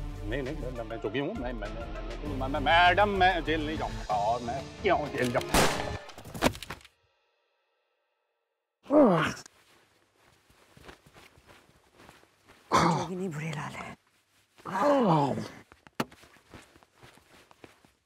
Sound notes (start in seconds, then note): 5.5 Gun shot; 8.9 Grunts; 15.3 Grunts